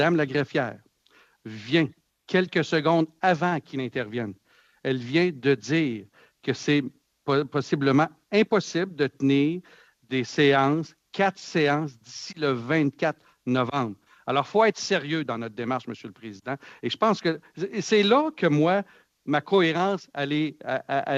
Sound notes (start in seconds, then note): 9.8 speaking French